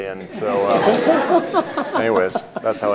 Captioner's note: audience laughs